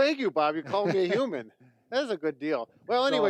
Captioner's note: laughing